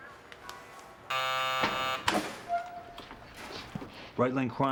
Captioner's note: bell buzzes